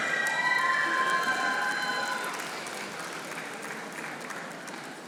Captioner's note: audience applauding